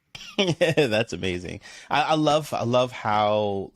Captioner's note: laughs